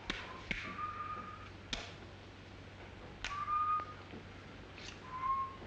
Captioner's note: charles whistles